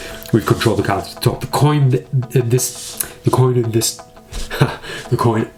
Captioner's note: laughs